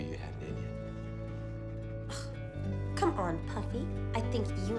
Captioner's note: huffs